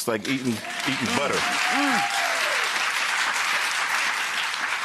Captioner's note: crowd cheering